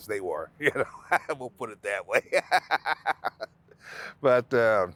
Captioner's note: laughing